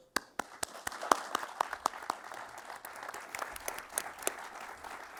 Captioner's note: applause